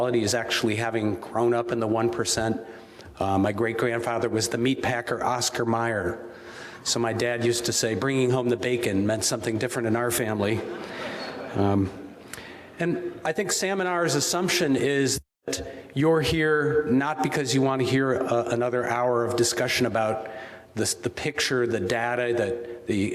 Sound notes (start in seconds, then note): 10.6 audience laughing